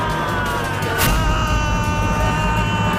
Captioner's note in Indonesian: berteriak